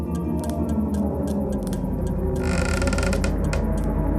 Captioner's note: creaking